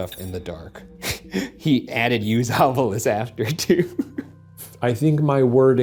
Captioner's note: laughs